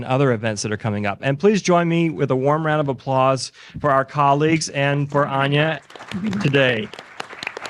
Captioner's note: applause